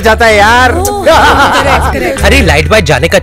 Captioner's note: Vishwas laughs